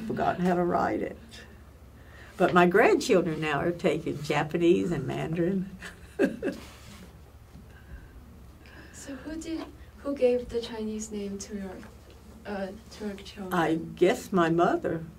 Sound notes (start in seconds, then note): 9.0 laughs